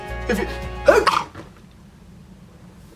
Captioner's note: sneeze